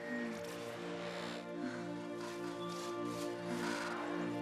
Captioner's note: birds chirping